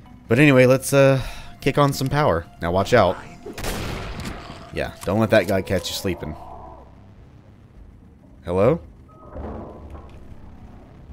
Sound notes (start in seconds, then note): 5.1 loud, enraged screaming; 9.2 stomping/clanking noises